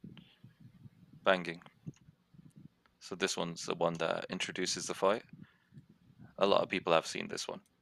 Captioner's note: ? Banging. ?